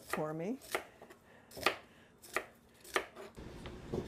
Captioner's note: chopping